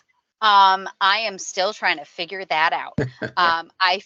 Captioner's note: laughing